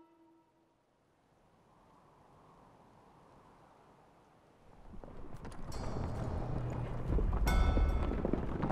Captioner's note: wind blowing; horses galloping